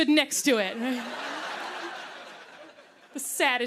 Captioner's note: laughter